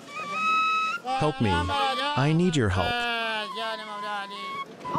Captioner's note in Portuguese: falando persa